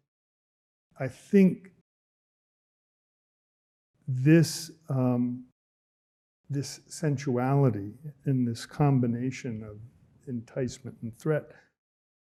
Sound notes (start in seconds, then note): none